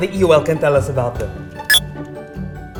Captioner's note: MindBlower beeps